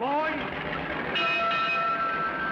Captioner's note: bell Clanging